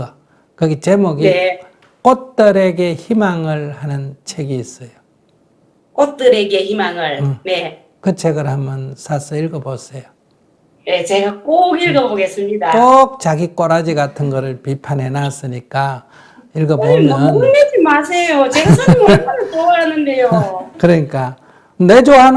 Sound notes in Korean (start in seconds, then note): 16.4 질문자 속상한 목소리; 18.5 스님 웃음